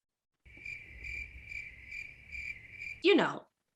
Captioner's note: crickets